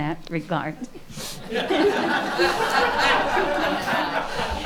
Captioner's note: laughing